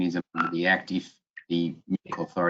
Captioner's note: electronic tone beeping